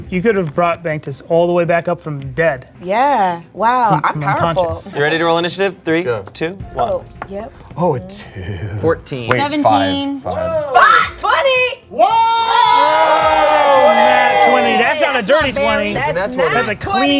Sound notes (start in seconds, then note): 11.9 screaming; 12.6 all yelling